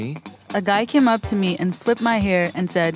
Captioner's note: voiceover